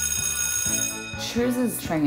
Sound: school bell rings

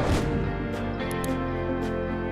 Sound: click

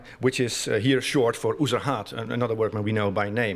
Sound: non-english speech

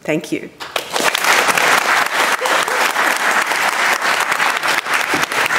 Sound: audience applauding

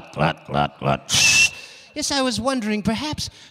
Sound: making whistling noise

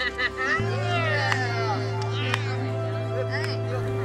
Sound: laughs

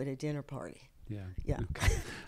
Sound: laughs

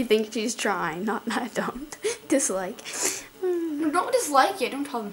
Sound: sighs

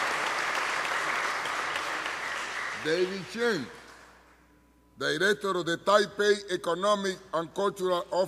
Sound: applause

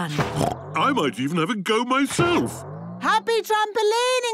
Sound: snorts

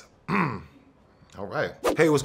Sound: clearing throat

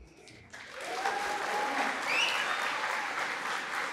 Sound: applause

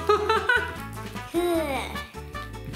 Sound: laughs

